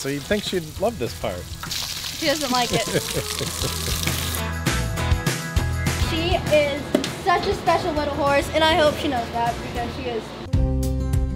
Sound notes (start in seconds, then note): 2.6 laughing; 4.2 upbeat music